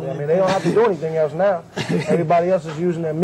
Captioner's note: laughs